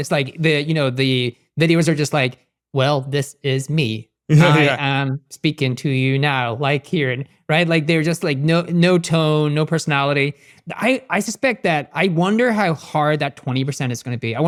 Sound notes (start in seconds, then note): 4.3 laughs